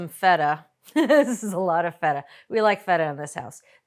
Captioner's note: laughs